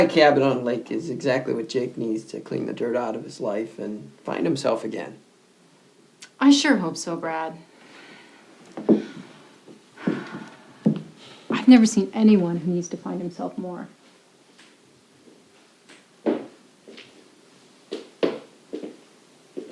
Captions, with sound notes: - Quiet cabin on the lake is exactly what Jake needs to clean the dirt out of his life and find himself again. - I sure hope so, Brad. (sighs) I've never seen anyone who needs to find himself more. (footsteps tapping)